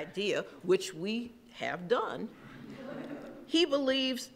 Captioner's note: laughing